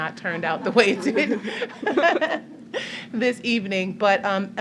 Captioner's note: laughter